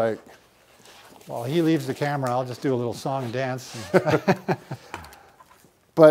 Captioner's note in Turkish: Gülüşmeler